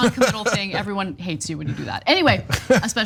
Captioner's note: laugh; laugh